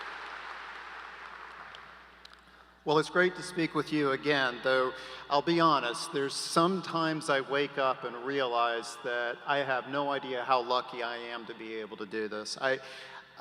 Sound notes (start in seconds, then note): 5.0 applause